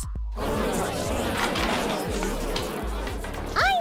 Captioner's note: arguing